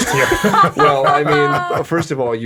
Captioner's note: all laughing